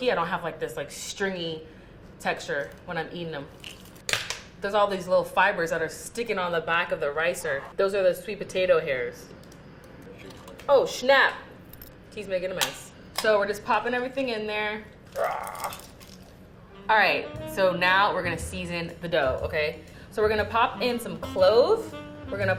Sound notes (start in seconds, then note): 15.1 grunting